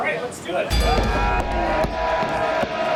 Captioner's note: bell dings; crowd cheering